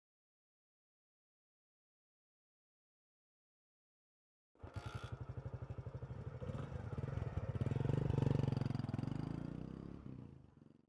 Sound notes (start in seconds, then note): 4.6 bike starts